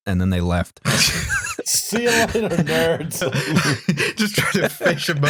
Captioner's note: laughing; laughs; laughing